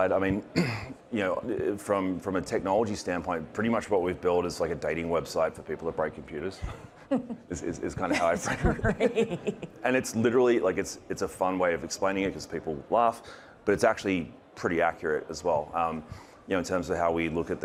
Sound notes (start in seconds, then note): 7.8 chuckling; 8.0 laughing